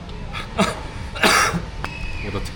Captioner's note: a cough of embarrassment